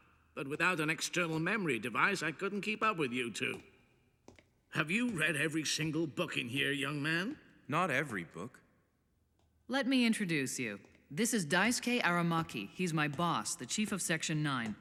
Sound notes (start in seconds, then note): none